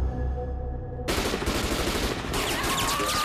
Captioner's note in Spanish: Disparos; Gritos